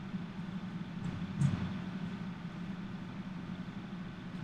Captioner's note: heartbeats